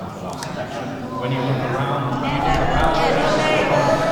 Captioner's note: groans from the audience